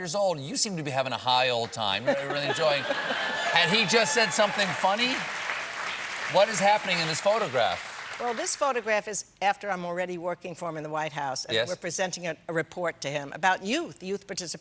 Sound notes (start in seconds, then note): 4.7 applause